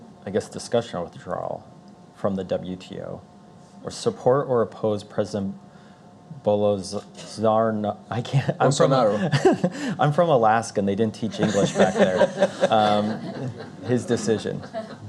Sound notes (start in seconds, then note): 9.1 laughing; 11.3 Azevedo and Audience Member laughing